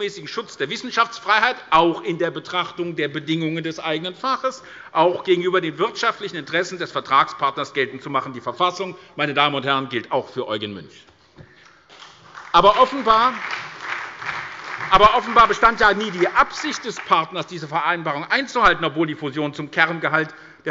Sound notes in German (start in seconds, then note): 12.0 Beifall bei der SPD